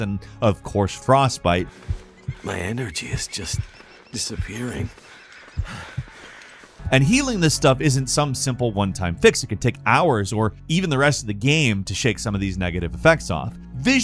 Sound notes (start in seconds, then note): 3.0 heartbeat throbbing; 4.9 speaker breathing heavily